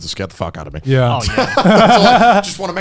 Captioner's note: laughing